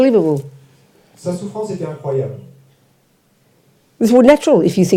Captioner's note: French